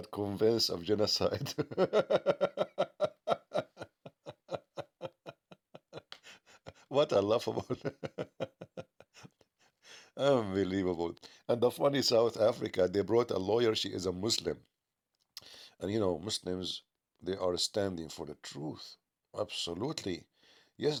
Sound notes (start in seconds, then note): 7.5 Ketawa